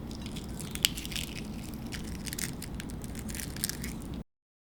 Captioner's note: shell crackling